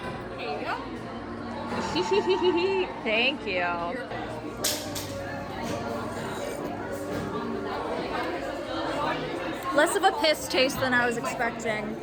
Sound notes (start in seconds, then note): 1.8 giggles